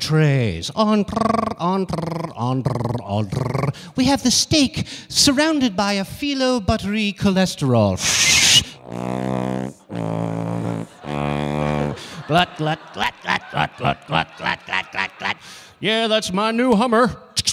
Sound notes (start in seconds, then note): 8.0 making tuba noise; 8.0 making whistling noise